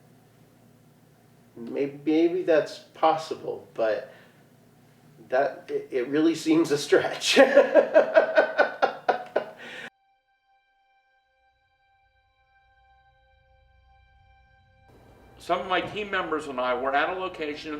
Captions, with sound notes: Maybe that's possible, but it really seems a stretch. (laughing) (eerie electronic music) - Some of my team members and I were at a location